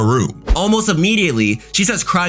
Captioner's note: air whooshing